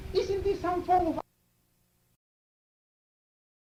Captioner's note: static